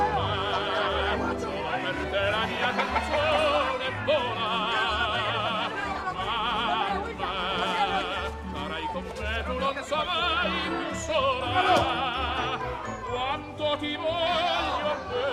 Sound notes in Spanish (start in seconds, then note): 2.5 gallinas cacarean